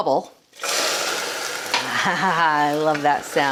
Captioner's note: caramel sizzling